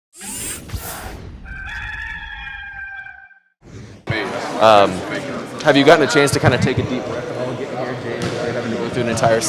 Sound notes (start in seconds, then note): 1.4 rooster crowing